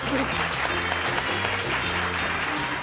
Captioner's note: applause